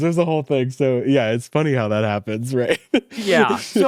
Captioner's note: laughs